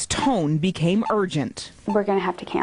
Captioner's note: heart monitor beeping